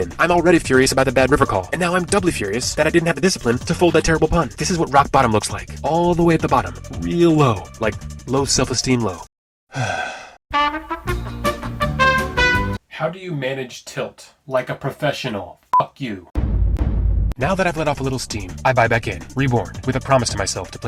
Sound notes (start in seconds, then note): 9.7 sigh